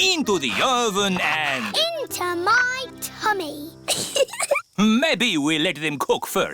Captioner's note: giggles